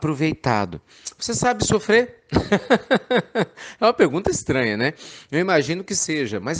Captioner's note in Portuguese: Risos